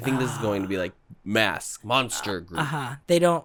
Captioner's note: manly voice